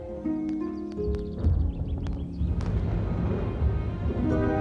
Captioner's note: thunder rumbles